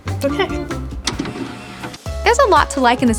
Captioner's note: tape pausing